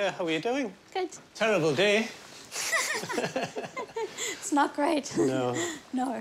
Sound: laughs

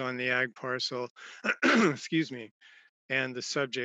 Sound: clears throat

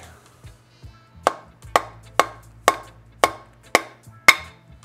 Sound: hammer tapping

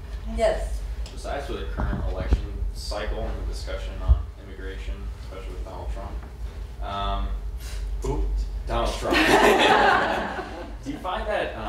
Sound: laughter

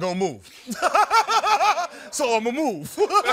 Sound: laughing

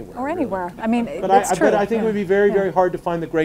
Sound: audience laughing

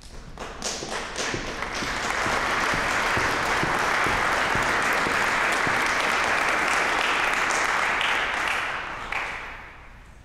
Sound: applause

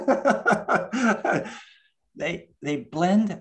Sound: laughs

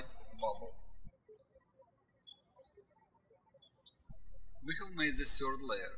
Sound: birds chirping

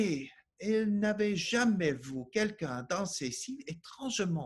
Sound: speaking French

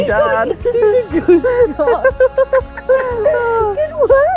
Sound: laughing

